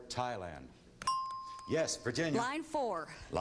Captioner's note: ding